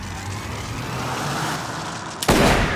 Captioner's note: gun shot